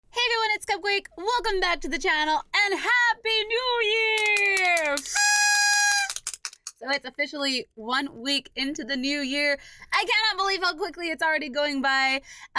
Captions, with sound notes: Hey everyone it's Cupquake i love you guys Welcome back to the channel And Happy New Year! *noise maker and clapper* So it's officially 1 week into the New Year I cannot believe how quickly it's already going by!